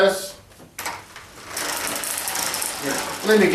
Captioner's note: walker scratching floor